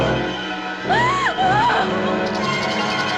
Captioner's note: gasping; tense music